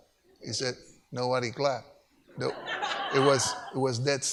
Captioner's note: audience laughs